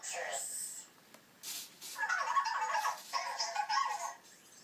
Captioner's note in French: Cozmo parle robot